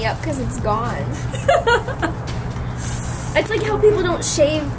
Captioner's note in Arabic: يضحك